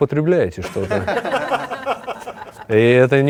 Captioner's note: laugh